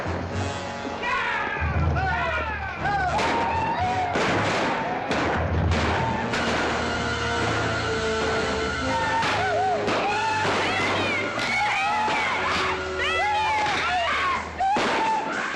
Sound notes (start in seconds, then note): 2.7 whooping & hollering; 4.0 commotion & gunshots; 6.5 dramatic music; 12.8 commotion & gunshots; 14.5 dramatic music; 14.7 commotion & gunshots